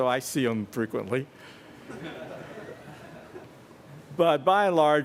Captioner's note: laughter